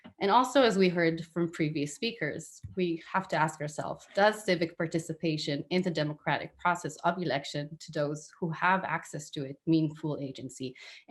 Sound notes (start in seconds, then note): none